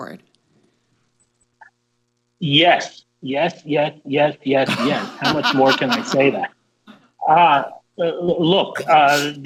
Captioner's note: laughter